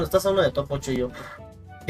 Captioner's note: gasps in toot toot